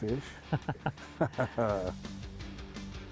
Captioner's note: laughing